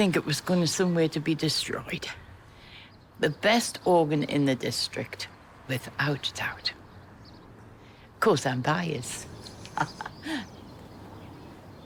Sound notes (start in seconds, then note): 9.4 chuckles